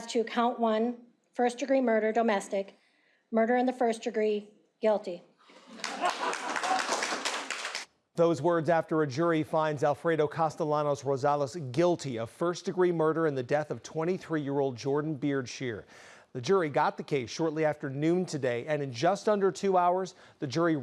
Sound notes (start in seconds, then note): 5.7 cheering